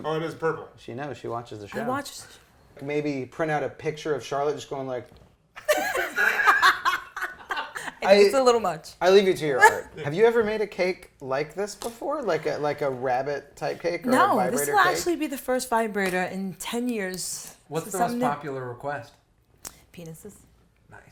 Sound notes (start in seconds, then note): 5.6 laughter